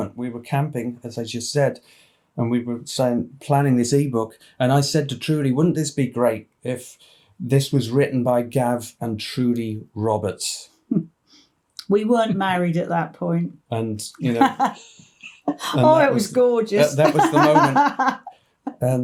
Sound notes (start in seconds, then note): 14.2 laughs heartily